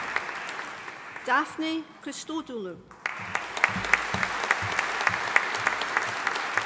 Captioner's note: audience applauding